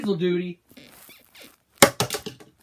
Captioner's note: bed squeaks